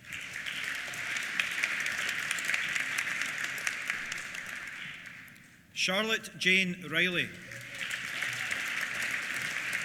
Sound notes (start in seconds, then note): 0.0 applause; 7.2 applause; 7.5 cheers